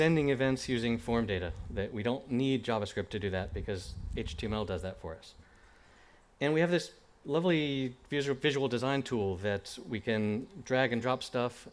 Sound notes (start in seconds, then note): none